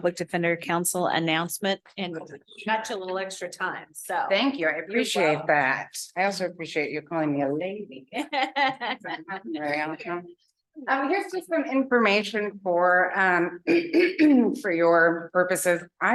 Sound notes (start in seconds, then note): 8.1 laughter